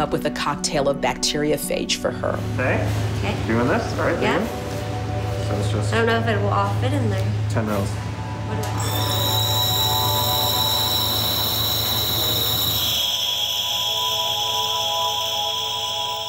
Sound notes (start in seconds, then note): 8.7 machine whirring; 13.2 ethereal music